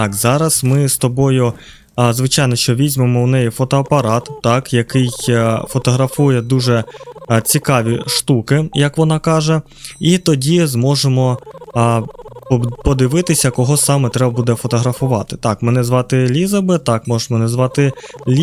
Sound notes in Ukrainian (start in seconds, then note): 7.0 сміх